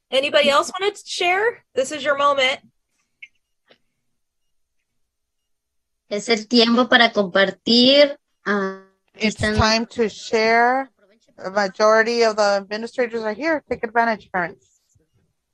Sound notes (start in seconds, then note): 6.1 speaking Spanish